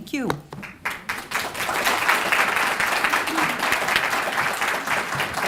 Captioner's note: applause